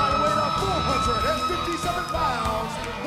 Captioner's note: bell ringing; crowd cheering